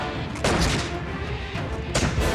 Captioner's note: shots firing